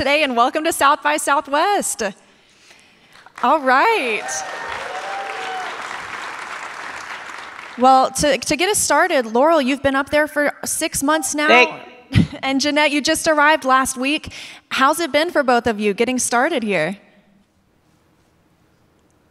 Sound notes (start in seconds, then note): 3.1 audience clapping and cheering